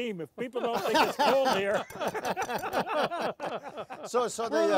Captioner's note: laughing